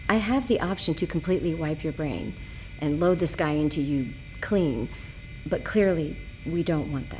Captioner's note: none